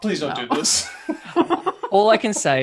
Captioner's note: laughter